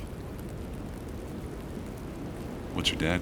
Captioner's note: wind whooshing